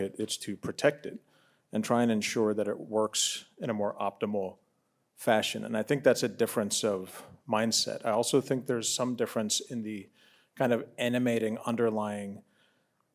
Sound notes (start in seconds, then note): none